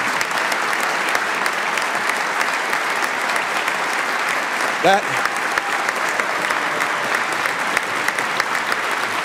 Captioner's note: applause